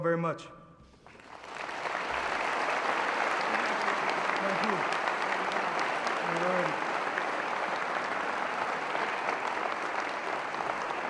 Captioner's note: applause